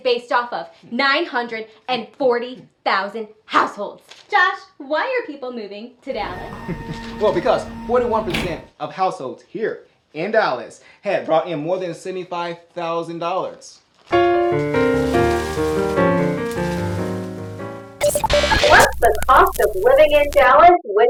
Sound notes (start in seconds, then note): 6.9 chuckles; 14.1 piano music playing; 18.0 static beep noise